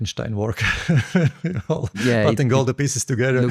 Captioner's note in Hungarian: nevetés